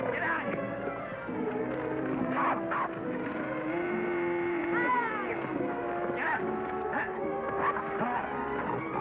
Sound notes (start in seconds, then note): 1.8 suspenseful music; 3.4 cattle moo; 6.8 suspenseful music